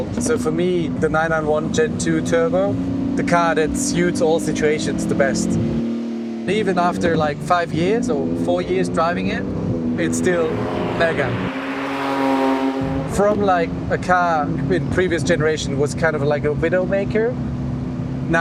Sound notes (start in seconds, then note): 12.1 engine revs